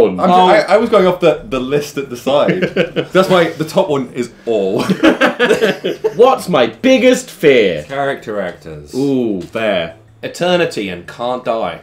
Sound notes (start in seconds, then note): 2.3 laughing; 4.7 everyone giggling